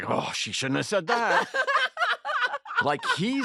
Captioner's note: laughter